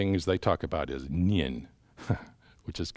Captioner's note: chuckles